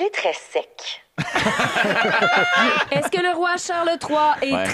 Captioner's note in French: rires